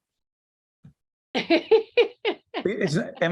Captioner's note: laughing